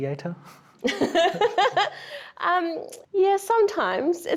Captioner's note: laughing